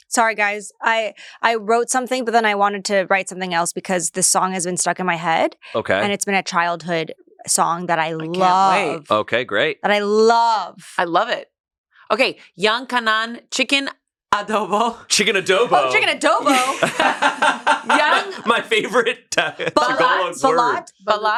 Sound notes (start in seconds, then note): 16.4 everyone laughs